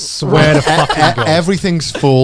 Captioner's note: chuckles